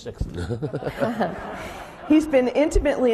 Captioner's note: laughing